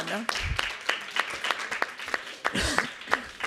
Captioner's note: all applauding